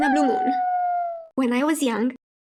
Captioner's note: wolf howling